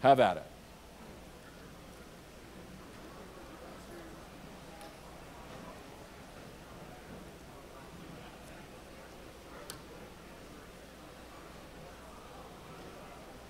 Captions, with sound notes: So, have at it. (audience chatters)